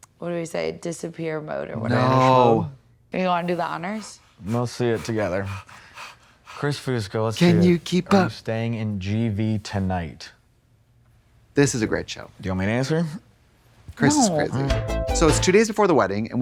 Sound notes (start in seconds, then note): 3.4 Trixie pants; 14.6 synth bop